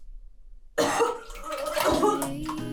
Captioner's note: liquid splashing; throwing up